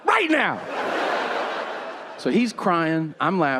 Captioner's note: audience laughing